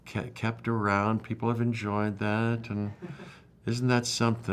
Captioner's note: background laughter